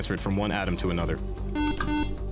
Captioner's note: beeping